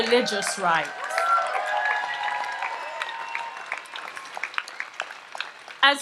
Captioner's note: audience applauds and cheers